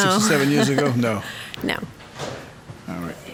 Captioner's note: laughs